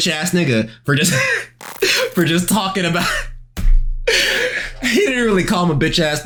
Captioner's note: laughing